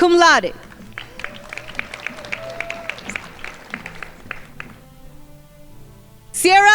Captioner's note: crowd applauding